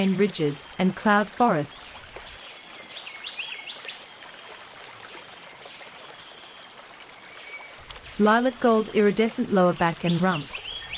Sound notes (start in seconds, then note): 2.3 birds chirping and singing; 2.3 river flowing